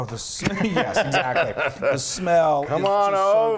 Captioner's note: laugh